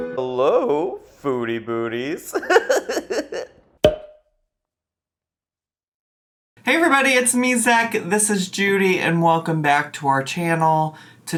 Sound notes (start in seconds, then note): 0.0 upbeat video game music; 2.3 laughing; 3.8 cork popping